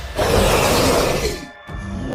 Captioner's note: roar